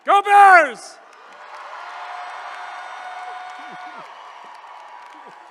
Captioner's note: attendees cheering